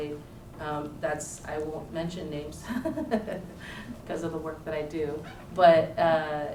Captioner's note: laughs